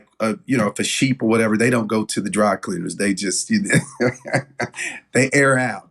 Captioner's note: laugh